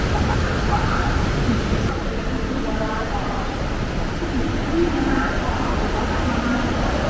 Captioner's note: laughs